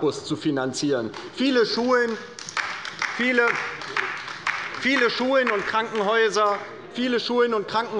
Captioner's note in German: Beifall bei der LINKEN